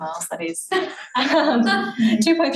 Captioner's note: audience laughing